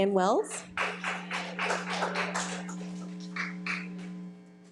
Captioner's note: audience clapping